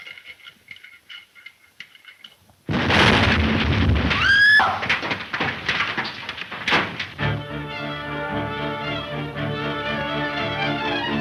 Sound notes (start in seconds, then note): 4.2 Mary screams; 7.2 lively, suspenseful music